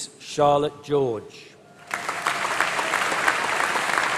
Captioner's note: applause